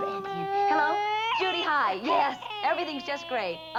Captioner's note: Stanley cries